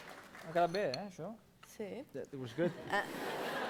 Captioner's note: non-english speech